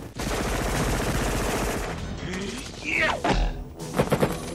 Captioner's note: machine guns firing